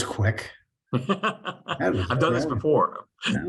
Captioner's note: laughs